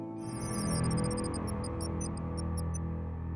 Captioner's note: electronic chiming